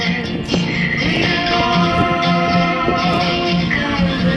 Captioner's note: wind crackling